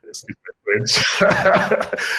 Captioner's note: laughs